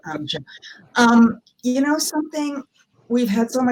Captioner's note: mumbles